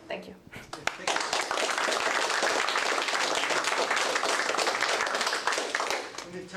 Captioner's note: applause